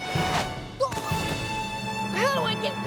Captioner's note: grunts